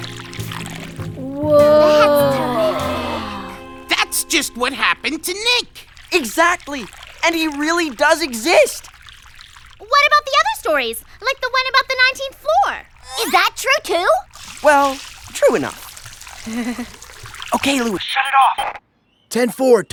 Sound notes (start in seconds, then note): 16.5 sheepish chuckle